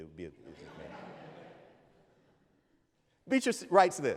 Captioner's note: audience laughs